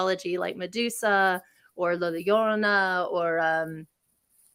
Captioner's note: speaking in a foreign language